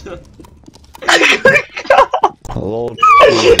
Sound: laughs

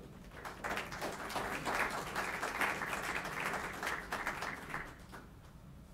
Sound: applauding

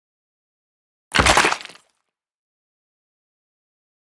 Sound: sound of stomp

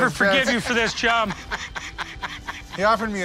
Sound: laughs

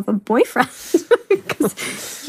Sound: both laughs

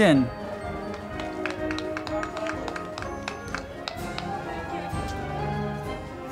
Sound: band music; crowd clapping

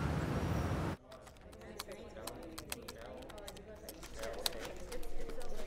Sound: typing

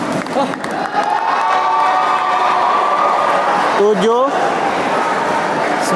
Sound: applause

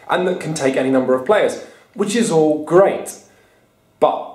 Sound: none

